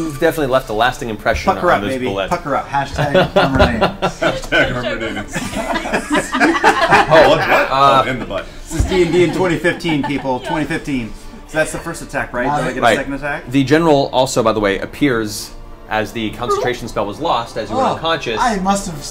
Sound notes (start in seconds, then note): 5.2 all laugh